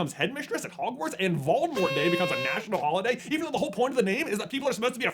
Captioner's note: party horn